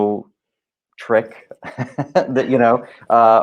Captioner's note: laughing